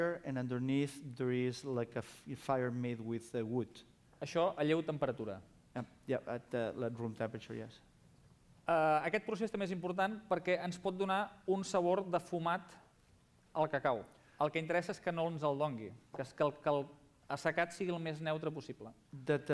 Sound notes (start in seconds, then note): 4.9 non-english speech; 13.1 non-english speech